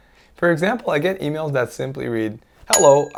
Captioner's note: bell chimes